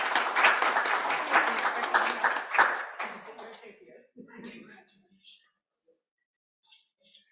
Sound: applause

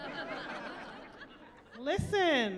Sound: chuckling

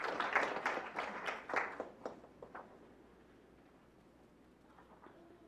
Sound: clapping

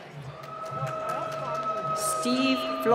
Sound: cheering and applause

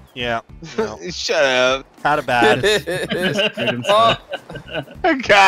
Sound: laughter

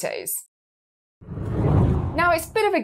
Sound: screen whooshing

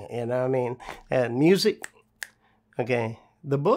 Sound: snaps fingers twice

